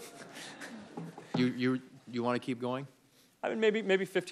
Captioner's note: laughter